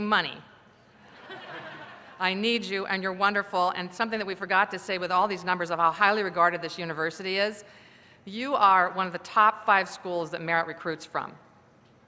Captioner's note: laughter